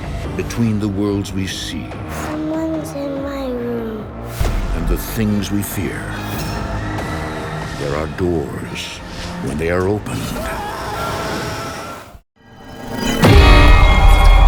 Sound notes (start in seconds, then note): 10.2 man screams